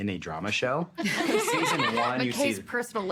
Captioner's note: all laughing